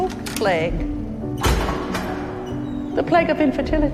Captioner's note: metal door opening; voiceover